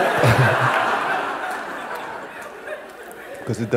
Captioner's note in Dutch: gelach